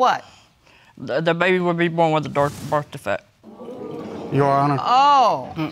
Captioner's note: audience gasping